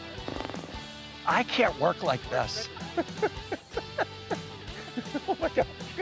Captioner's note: laughs